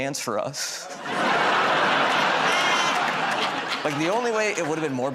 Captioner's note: laughter